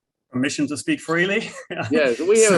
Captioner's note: laughter